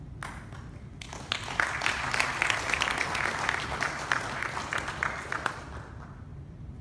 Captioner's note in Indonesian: Tepuk Tangan